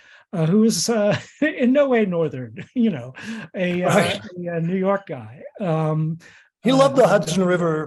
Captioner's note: laughing